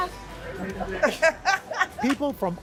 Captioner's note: laughter